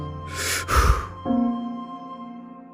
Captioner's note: deep breath